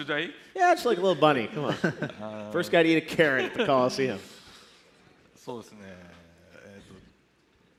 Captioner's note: laughter